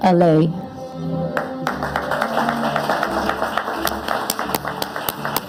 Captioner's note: audience applauding